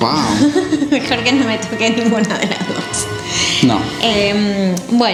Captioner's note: laughs